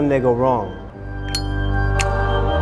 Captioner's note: snap; zippo flick